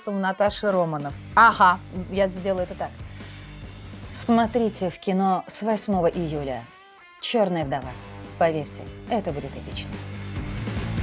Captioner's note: speaks with Natasha’s Russian voice